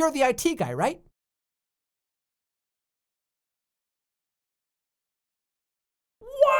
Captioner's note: silence as he ponders the idiocy